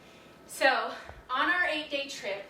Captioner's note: none